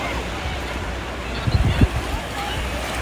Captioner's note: ocean waves